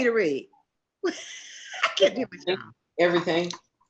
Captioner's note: laughs